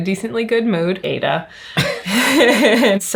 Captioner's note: chuckles